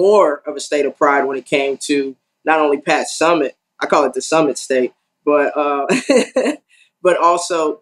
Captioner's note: laugh